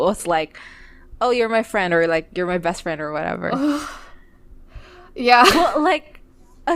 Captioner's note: whimpers